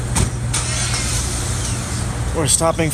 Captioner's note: car starts